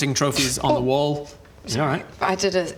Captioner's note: hiss